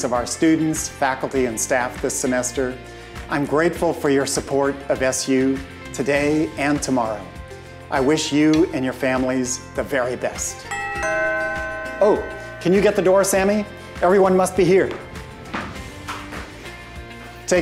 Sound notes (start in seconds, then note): 10.7 doorbell rings